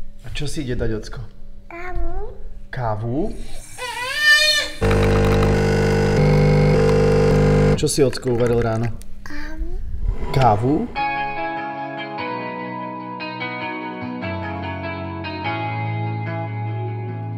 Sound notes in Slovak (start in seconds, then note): 3.5 detský plač; 4.8 zvuk kávovaru